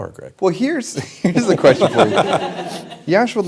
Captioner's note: laughter